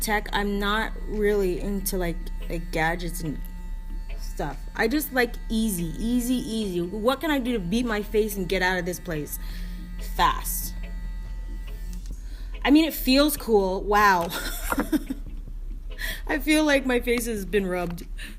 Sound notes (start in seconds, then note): 14.3 laughing